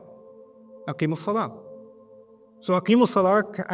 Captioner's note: Arabic